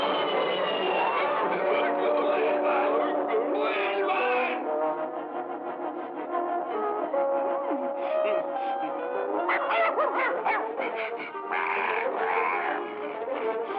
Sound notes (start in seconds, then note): 3.5 groans; 9.4 growls